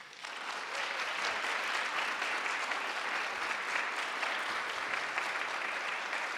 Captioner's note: audience claps